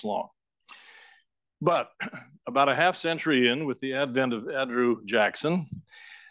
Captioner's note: cough